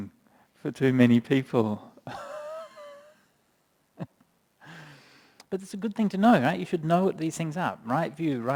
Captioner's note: chuckles